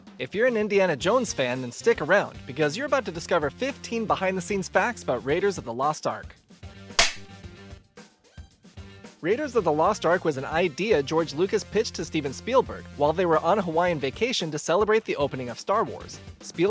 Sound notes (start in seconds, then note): 2.4 upbeat music playing in the background; 7.0 film clapper sound, music continues